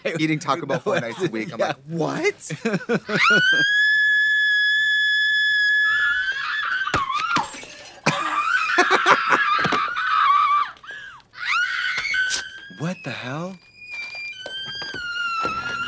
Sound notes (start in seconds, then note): 2.1 Katya laughs; 3.0 Regina shrieks; 7.0 glass breaks; 7.7 Trixie giggles; 11.3 Regina screeches